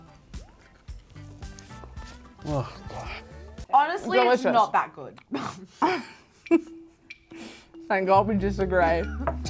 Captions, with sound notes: - Ugh, God. - Honestly, it's not that good. - Delicious. (both laughing) Thank god we disagree.